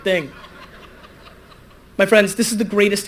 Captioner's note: audience laughter